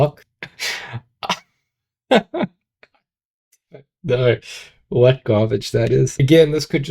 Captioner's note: laughing